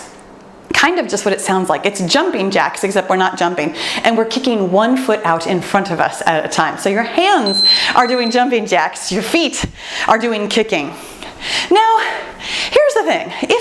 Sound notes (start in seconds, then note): 7.4 timer beeps